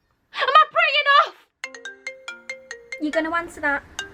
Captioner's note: phone rings